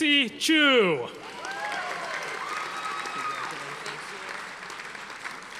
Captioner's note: audience applauding